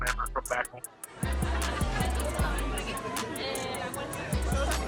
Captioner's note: people chattering